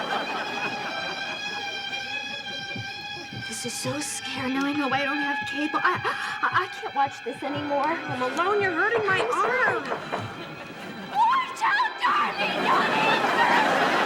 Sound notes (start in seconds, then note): 1.1 tense music; 8.6 knocking